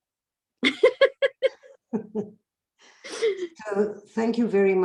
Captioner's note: laughing